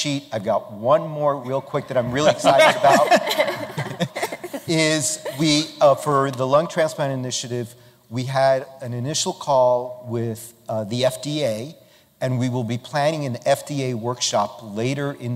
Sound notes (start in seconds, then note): 2.0 laughter